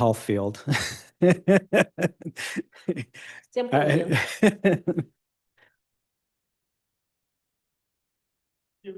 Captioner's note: laughs